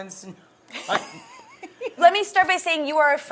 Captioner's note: laughing